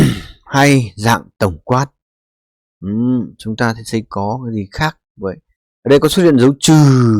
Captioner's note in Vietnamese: hắng giọng